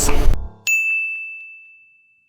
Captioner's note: logo dings